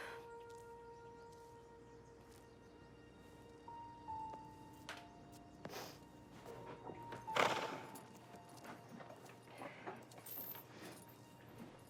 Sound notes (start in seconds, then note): 0.2 somber music continues; 7.4 horse snorts